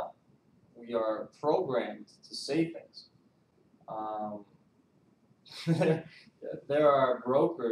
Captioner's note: laughs